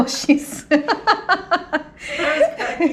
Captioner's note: laughs loudly